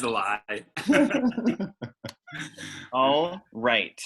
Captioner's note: chuckles